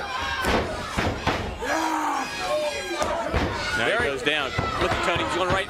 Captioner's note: crowd chatter